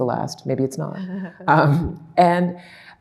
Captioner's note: laughing